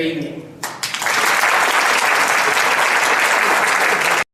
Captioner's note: audience applauds